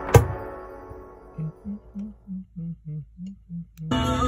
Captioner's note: I can't remember what song I was humming